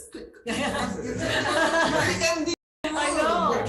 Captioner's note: everyone laughing